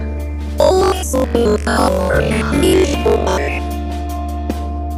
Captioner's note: the audio starts glitching out for some reason